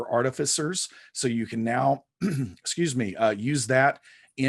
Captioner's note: clears throat